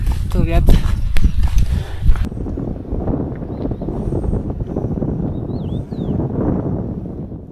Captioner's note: sound of wind